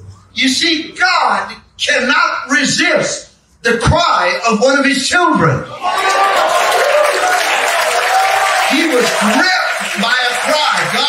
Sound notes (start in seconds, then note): 5.7 congregation cheering and clapping